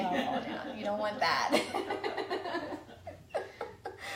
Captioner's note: laughs